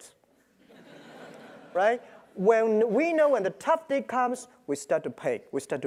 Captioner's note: laugh